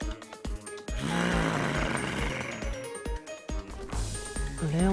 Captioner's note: growling